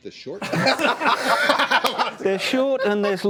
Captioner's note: laughter